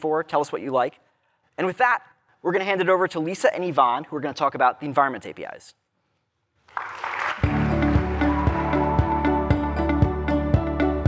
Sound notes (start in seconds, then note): 6.6 applause